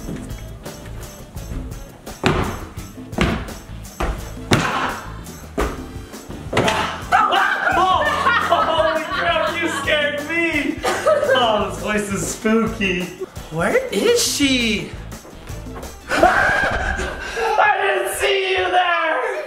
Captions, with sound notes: Ha! (screams) (laughs) - Holy crap you scared me! - Ah, this place is spooky - Where is she? (screams) I didn't see you there!